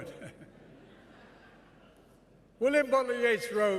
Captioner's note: laughter